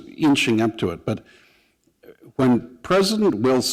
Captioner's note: none